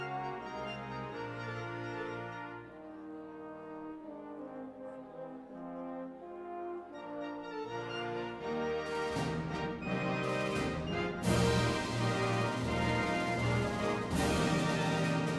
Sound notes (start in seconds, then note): none